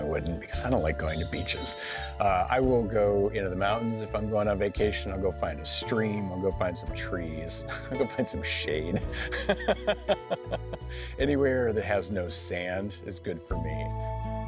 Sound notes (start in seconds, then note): 8.9 laughs; 13.5 gentle music